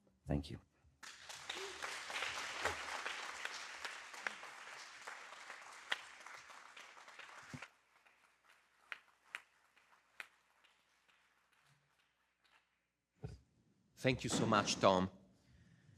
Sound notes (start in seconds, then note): 1.4 audience applauding